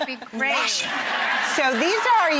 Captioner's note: audience laughter